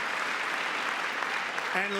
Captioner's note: applause; cheering